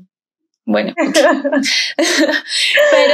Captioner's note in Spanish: ríen